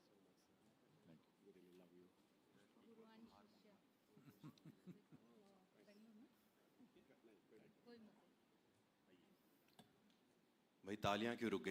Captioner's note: laughter